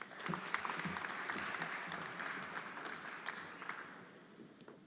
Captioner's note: everyone applauding